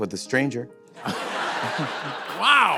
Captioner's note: laughter